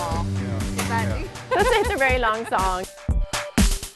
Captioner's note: laughter